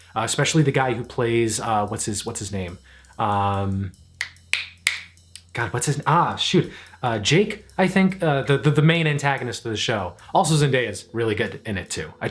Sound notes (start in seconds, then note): 4.2 snaps